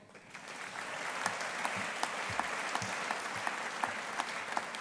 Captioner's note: audience applauding